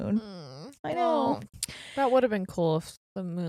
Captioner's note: groans; clicks tongue